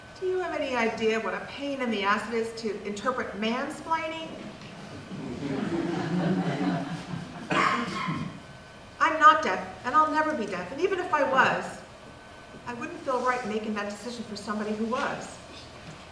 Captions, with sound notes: DO YOU HAVE ANY IDEA WHAT A PAIN IN THE ASS IT IS TO INTERPRET MANSPLAINING? (audience laughs) I’M NOT DEAF. I’LL NEVER BE DEAF. AND EVEN IF I WAS I WOULDN’T FEEL RIGHT MAKING THAT DECISION FOR SOMEONE WHO WAS.